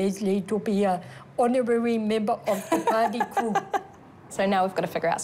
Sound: laughs

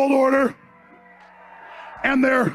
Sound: crowd cheers

